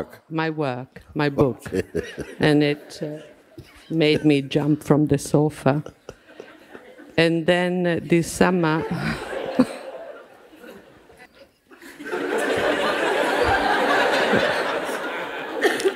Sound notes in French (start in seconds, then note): 11.7 rires